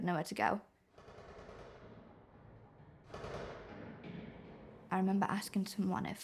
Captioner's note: distant gun fires rapidly